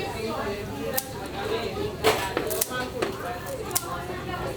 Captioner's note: scissor noise